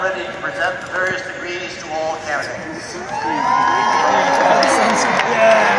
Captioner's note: cheers & applause